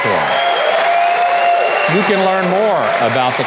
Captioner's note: audience cheers